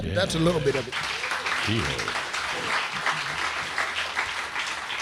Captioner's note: crowd clapping